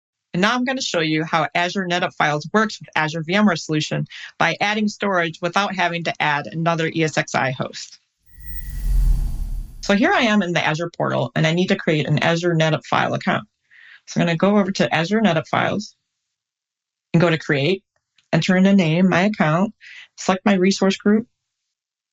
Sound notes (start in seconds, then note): 8.3 air whooshes